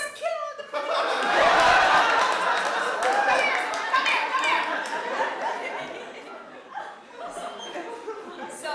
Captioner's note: laughter